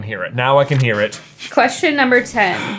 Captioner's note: paper crinkling